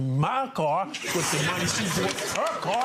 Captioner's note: audience laughing